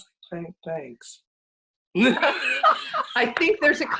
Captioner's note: laughs